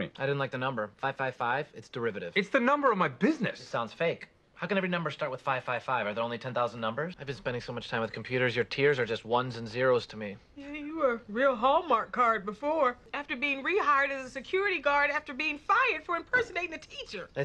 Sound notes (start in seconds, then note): none